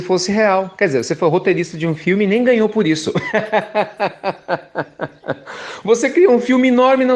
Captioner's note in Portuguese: Risos